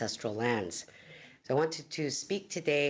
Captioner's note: speaking in Alternate Language